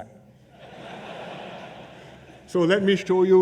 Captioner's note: laughter